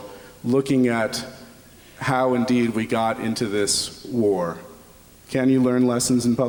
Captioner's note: none